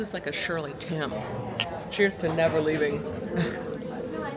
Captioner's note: laughs